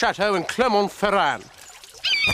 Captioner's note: bird squawks